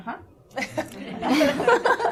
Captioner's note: laughter